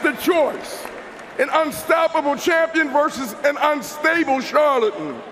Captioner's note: cheers and applause